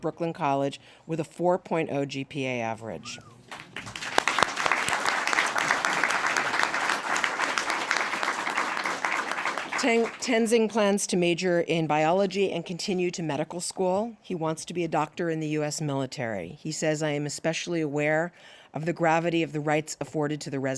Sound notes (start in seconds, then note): 3.4 applause